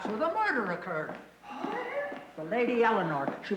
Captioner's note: all gasp